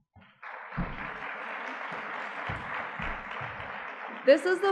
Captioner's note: audience clapping